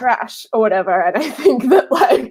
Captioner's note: laughing